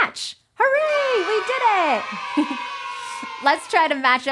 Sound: kids cheering

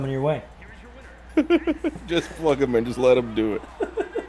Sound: laugh

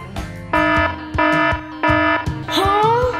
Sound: quirky music; siren blaring

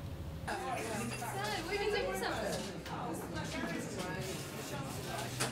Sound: people chattering

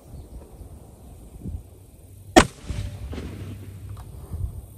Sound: report of the rifle

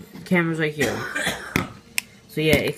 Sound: distant coughing

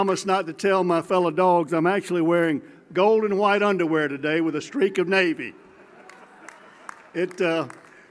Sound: applause

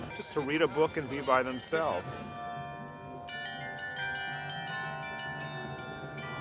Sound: bells chiming melodically

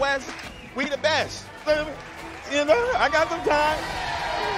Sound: cheering

